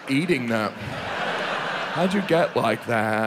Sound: audience laughs

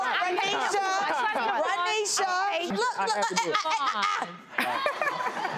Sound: stutters; audience laughs

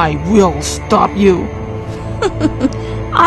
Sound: laugh

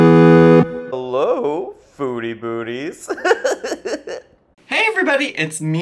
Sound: video game music; laughing

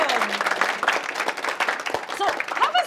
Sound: applauding

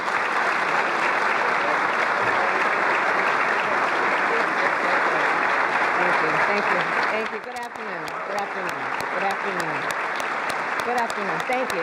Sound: applause

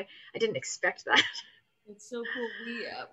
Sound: laughs

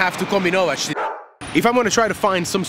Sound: dog barks

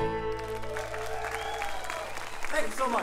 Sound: audience cheering and applauding

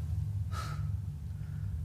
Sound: sighs

